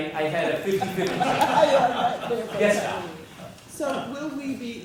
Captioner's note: laugh